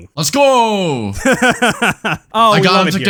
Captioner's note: laughs